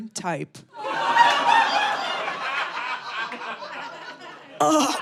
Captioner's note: audience laughing